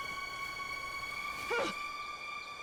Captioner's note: Riley grunts